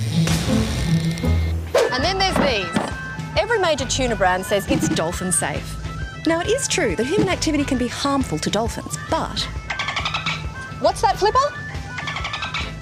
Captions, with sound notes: And then there's these. Every major tuna brand says it's dolphin-safe. Now, it is true that human activity can be harmful to dolphins, but... (Dolphin chirping) What's that, Flipper?